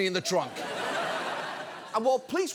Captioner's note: audience laughs